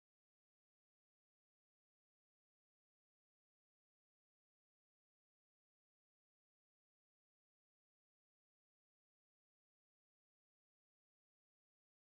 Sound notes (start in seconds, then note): none